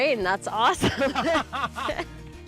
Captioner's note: laughing